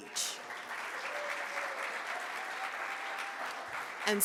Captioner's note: audience claps